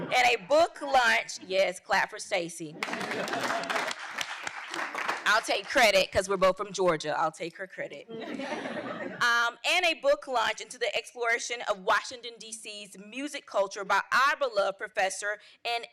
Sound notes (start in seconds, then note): 2.8 audience applauding; 8.2 audience laughing